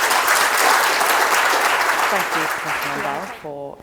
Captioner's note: audience applause